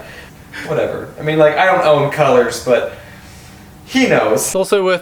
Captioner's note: sigh